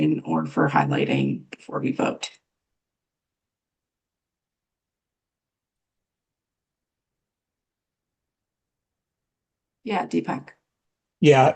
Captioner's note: pause